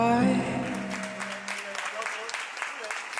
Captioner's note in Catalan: aplaudiments